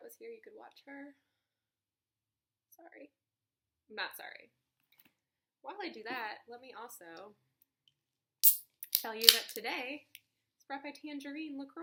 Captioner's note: can opens